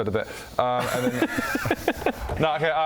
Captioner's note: laughs in fun-sponge